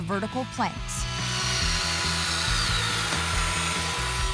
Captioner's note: screwing